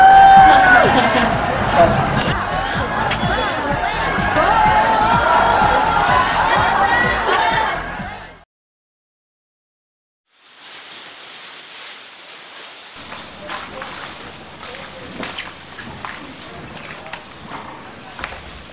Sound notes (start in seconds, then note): 0.8 everyone's cheering Cindy